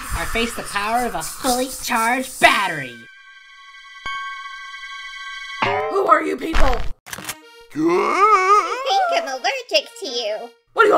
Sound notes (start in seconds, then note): 7.8 Filmy gasps